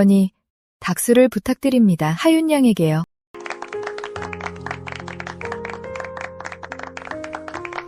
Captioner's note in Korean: 박수